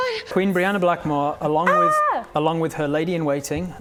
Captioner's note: minor screaming